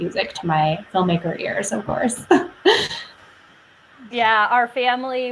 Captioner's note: laughs